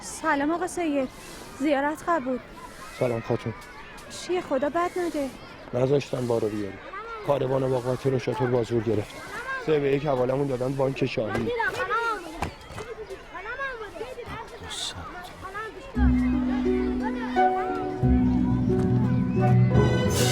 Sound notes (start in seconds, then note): 15.2 whispring; 16.0 cinematic music